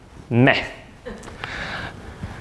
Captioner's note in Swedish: skratt